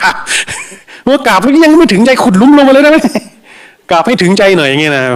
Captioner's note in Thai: เสียงหัวเราะ